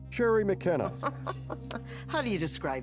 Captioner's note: chuckling